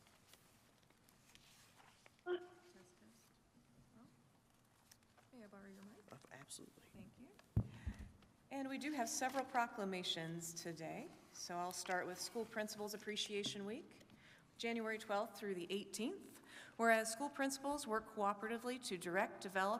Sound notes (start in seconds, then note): 2.4 speaking faintly